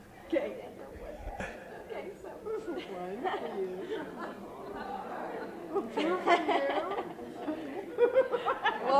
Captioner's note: laughter